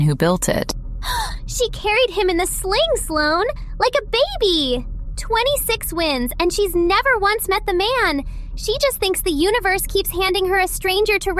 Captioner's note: gasp